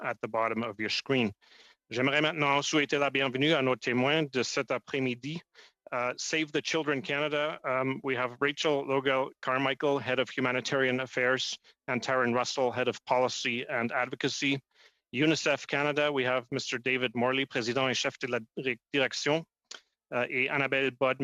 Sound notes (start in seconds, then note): 8.2 speaking French